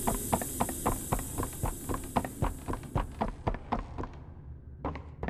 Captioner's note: footsteps